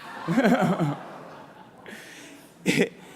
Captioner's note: laughter